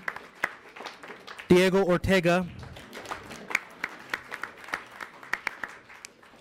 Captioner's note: audience applauds